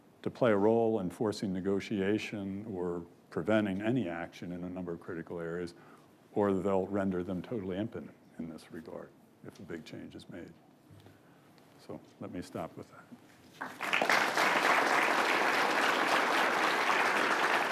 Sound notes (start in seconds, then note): 13.6 audience applauds